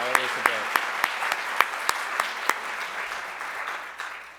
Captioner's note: audience applauds